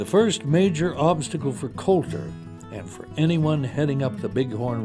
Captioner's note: voiceover